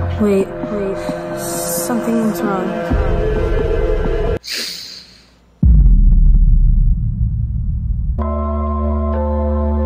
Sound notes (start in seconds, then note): 4.4 gasping; 5.6 dramatic music